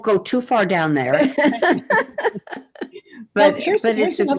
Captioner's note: laughter